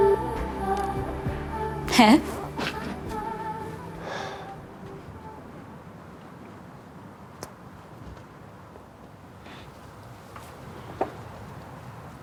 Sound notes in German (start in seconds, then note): 3.5 Seufzen; 5.4 Musik verklingt